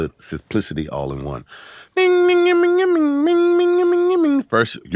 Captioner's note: humming